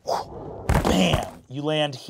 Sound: whooshes

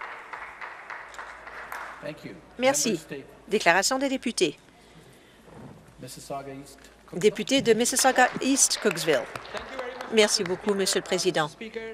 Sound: some applause

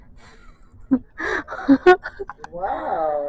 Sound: laughing sounds

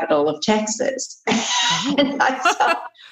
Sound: laughter

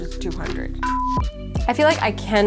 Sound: beeping

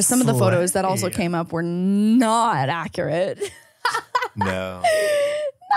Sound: laughs

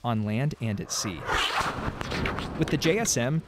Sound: bomb exploding

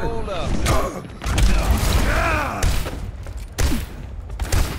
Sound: Doomfist groaning; firing weapon

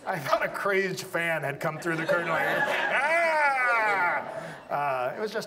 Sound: yells

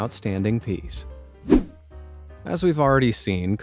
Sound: air whooshing

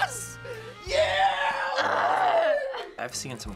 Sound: groans loudly

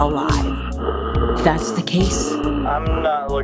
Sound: actor gasps for air

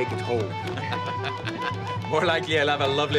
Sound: Pete laughs

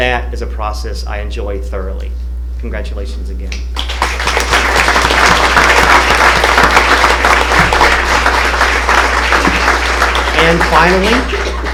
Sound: applause

